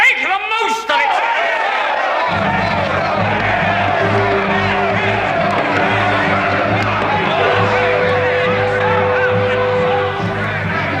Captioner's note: Aplausos